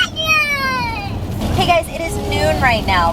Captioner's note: whining